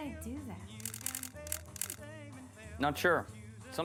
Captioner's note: camera shutters